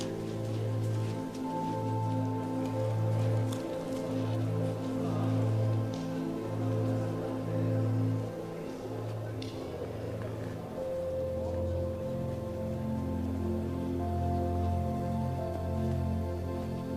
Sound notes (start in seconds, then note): 0.2 gentle music continues; 0.2 tourists chattering; 9.2 gentle music continues; 9.2 tourists chattering